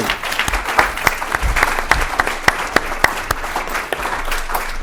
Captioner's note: applause